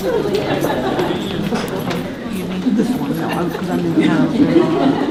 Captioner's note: participants talking at once